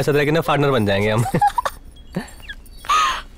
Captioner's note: Laughs